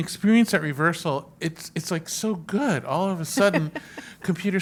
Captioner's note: laugh